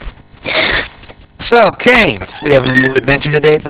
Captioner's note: whimpers